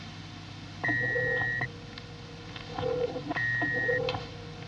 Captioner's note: porta emite um sinal sonoro